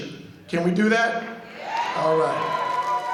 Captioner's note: audience cheering